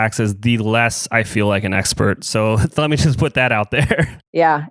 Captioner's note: laughs